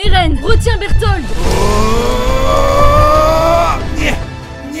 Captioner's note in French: oooooooooh !